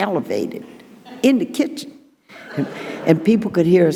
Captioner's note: audience laughing